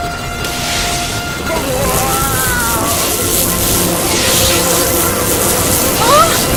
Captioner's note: sounds of being zapped